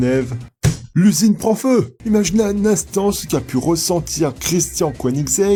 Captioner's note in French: clap